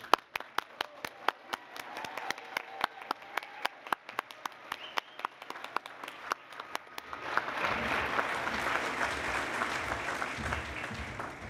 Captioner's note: cheering and Applause